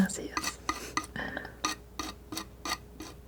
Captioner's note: scratching